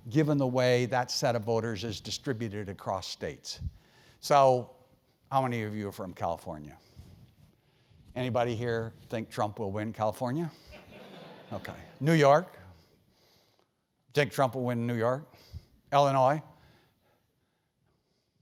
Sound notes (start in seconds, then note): 10.8 laugh